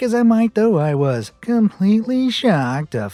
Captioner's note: sarcastically